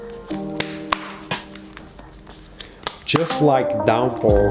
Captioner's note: cards landing